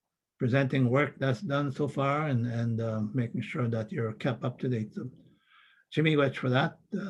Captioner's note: foreign language